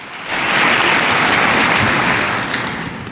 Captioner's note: applause